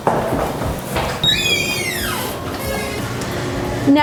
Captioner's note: door creaks